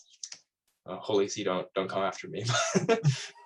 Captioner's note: laughs